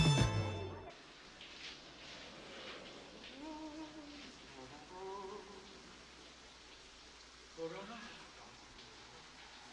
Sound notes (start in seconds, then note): 0.9 shower running; 1.4 Nick humming